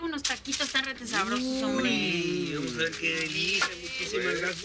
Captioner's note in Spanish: Exclamaciones